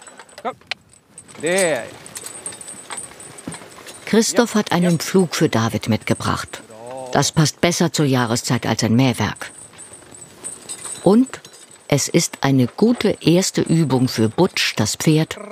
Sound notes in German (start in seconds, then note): 1.9 Klingeln